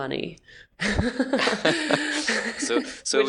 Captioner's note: laughing